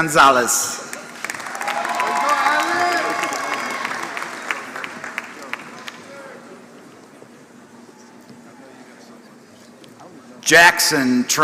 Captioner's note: applause